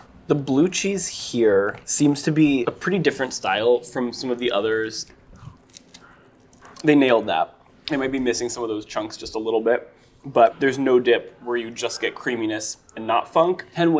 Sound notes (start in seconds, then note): 5.5 wing rustling